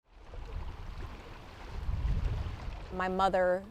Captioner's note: water sloshing